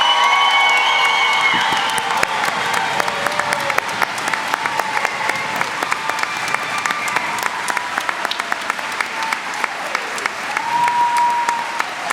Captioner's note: cheering and Applause